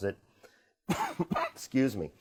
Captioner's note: coughs